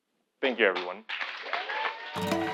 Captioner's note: applause